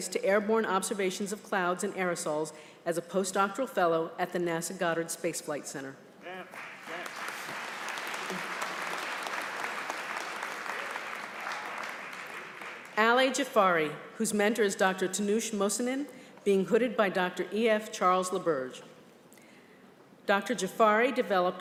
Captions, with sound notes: airborne observations of clouds and aerosols as a post-doctoral fellow at the NASA Goddard Space Flight Center. >>:[(APPLAUSE)] >>:Ali Jafari, whose mentor is Dr. Tinoosh Mohsenin, being hooded by Dr. E.F. Charles LaBerge. Dr. Jafari developed